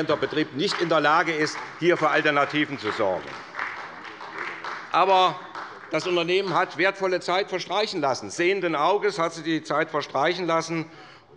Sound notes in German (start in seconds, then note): 3.4 Beifall bei der SPD